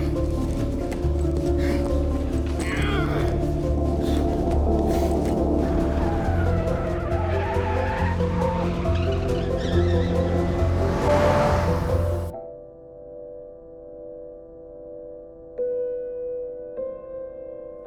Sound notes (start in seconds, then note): 2.5 grunting; 6.1 tires squealing